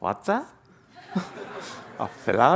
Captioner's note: laughter